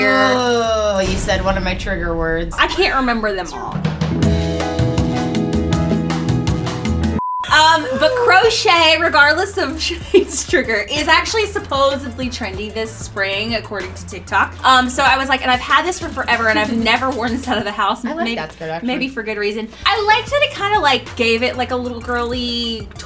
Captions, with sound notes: - Oh, you said one of my trigger words. - I can't remember them all. (soft music) (beep) - The crochet, regardless of Sinead's trigger, is actually supposedly trendy this spring, according to TikTok. So I was like, and I've had this for forever and I've never worn this out of the house. - I like that. - Maybe for good reason. I like that it kind of like gave it like a little girly